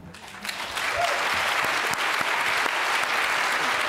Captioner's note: applause